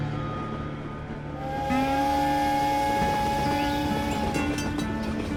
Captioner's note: train whistle